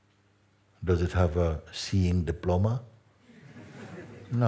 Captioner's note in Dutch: gelach